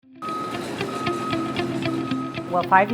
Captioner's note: truck beeping